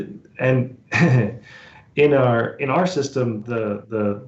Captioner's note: chuckles